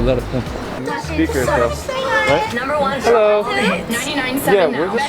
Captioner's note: radio playing